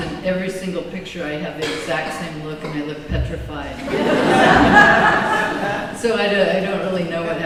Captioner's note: laughter